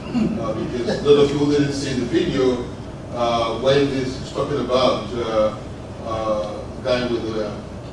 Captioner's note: laugh